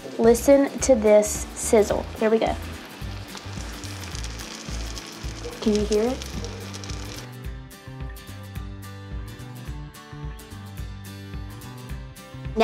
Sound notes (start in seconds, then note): 3.6 tortillas sizzling; 7.9 upbeat guitar music